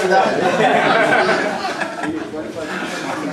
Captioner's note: laughter